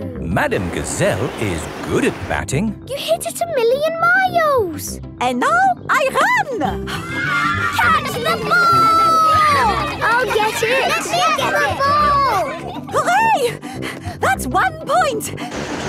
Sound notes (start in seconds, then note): 6.9 children cheering; 10.0 children calling for the ball